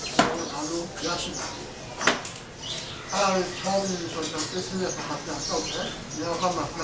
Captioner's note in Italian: parla birmano